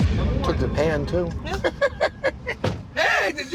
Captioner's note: laughter